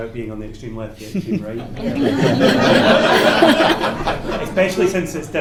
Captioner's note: laughter